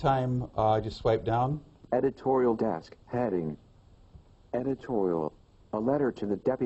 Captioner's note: iPhone announcing selected words